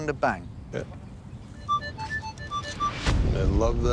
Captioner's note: beeping